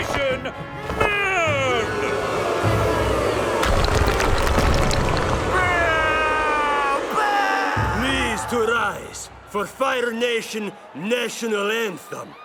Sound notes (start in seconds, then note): 0.9 booing